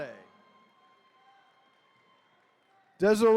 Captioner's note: attendees cheering